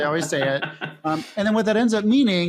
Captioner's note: laughing